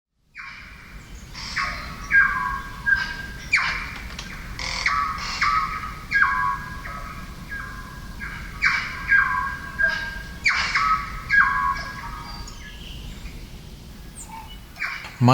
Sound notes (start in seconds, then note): 0.6 birds chirping